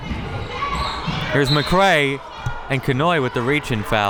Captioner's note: whistle